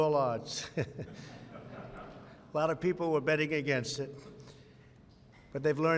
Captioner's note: laughter